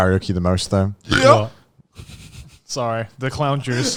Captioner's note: burping